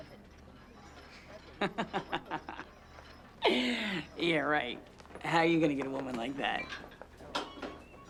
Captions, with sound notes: (Bobby laughing) - Yeah right. How are you gonna get a woman like that?